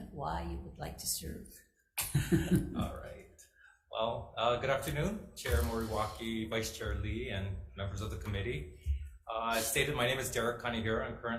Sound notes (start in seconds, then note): 2.0 chuckling